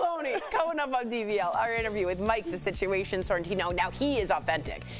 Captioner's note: laughter